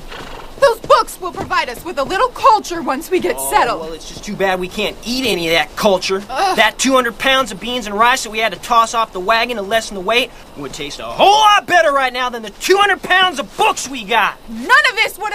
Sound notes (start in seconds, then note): 6.2 groans